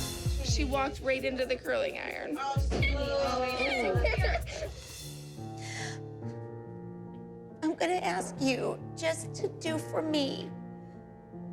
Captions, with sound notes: She walked right into the curling iron. -[crying] -It's okay. [gasps] I'm gonna ask you just to do for me...